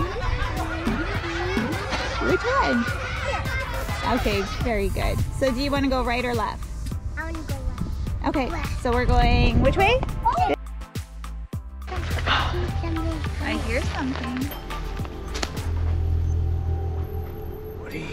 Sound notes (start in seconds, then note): 14.4 bell rings; 16.0 suspenseful music